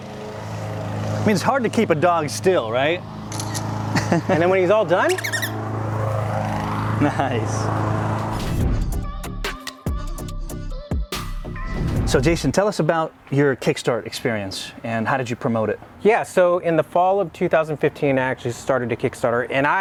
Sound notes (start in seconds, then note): 3.3 shutter snapping; 5.0 squeaking; 8.5 upbeat synth music